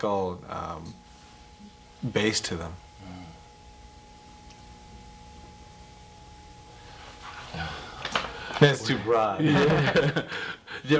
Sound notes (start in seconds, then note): 7.5 sigh; 9.4 both laugh